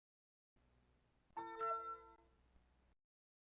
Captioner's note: windows logon sound